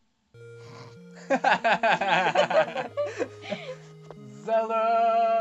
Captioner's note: random laughter